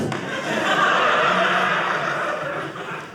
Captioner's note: audience laughing